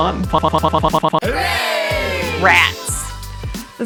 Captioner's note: crowd